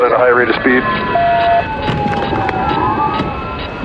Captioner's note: sirirenens blblararing